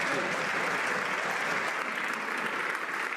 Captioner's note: some Applause